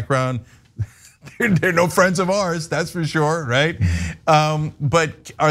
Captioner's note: laugh